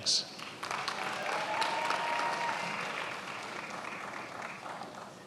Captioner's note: attendees applauding